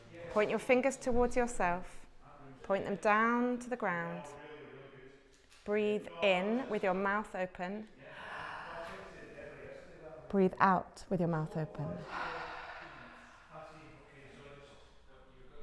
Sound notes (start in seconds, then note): 8.0 breath; 12.0 breath